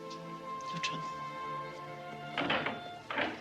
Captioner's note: door opens